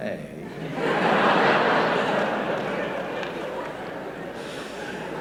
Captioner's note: laughter